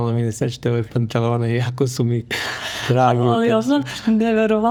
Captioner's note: sigh of surprise